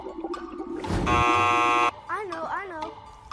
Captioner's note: buzzer ringing